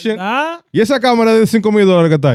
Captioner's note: speaking In Foreign Language